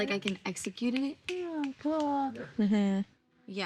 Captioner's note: snaps finger